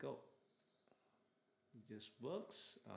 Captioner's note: aircon beeping